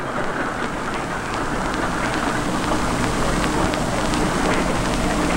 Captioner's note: conveyor belt rattling